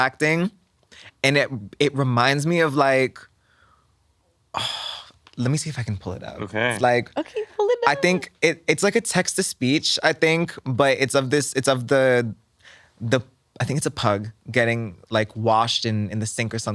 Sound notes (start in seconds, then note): 4.6 sighs